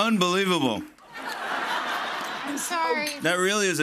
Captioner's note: laughter